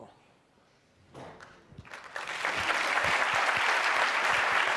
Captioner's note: applause